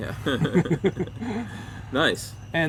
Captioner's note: both chuckling